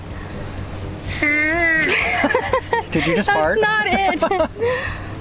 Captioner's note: laughs